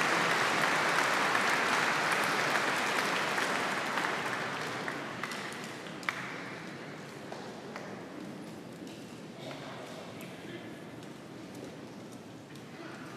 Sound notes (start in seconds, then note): 2.7 applause